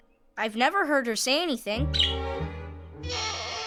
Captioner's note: chirping, creaking